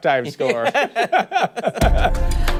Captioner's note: laughter